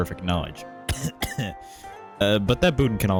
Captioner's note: cough cough